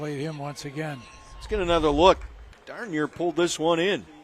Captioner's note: applause